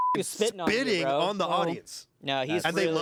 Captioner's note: beep